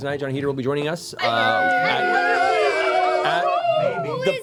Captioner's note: cheering